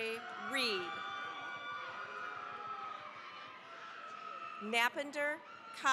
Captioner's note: cheering, applause